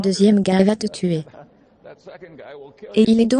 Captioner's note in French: en riant